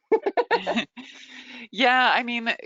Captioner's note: chuckles; laughs